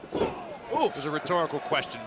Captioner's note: crowd cheering